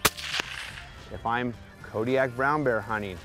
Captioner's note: gunshot